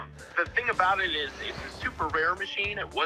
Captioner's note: on phone